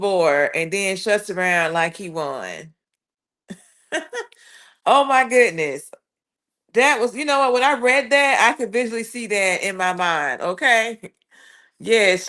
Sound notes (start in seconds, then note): 3.5 laughter